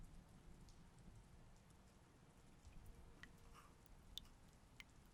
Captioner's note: water dribbling